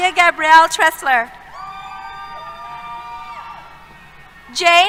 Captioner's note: cheers